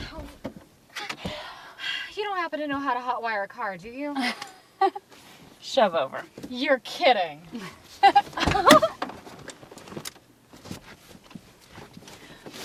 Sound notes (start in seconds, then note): 4.3 laughs; 8.0 giggles